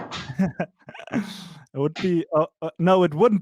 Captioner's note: laughs